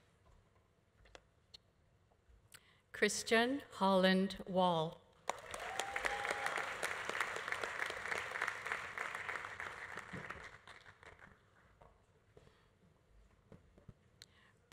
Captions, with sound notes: Christian Holland Wall. (audience applauding) (audience cheering)